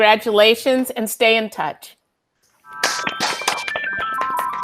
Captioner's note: soft serene music; students clapping